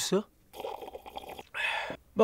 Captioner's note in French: bruits de glouglou